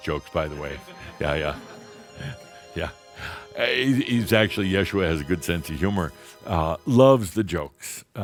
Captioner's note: chuckles